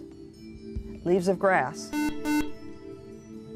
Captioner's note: buzzer